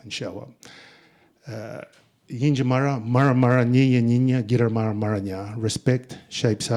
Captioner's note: speaking in Ngunnawal